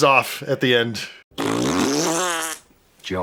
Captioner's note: blows raspberries